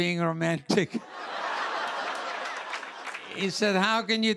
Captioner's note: laughter